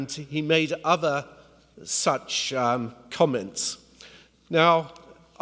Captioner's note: none